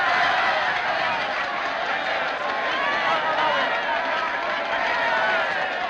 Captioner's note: cheering